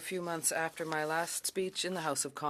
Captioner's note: speaking French